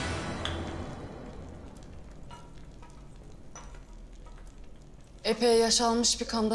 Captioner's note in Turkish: Ateş Sesleri